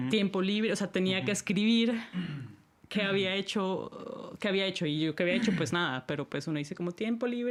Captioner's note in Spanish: carraspeo